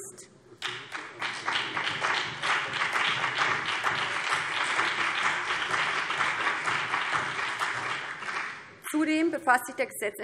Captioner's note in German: Beifall BÜNDNIS 90/DIE GRÜNEN und vereinzelt CDU